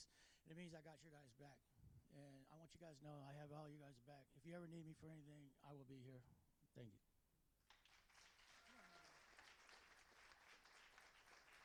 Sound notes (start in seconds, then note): 7.6 applauding